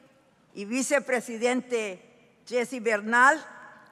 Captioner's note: speaking in foreign language